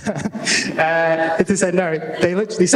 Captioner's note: laughter